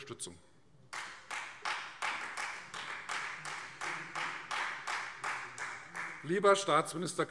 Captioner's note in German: Beifall Freie Demokraten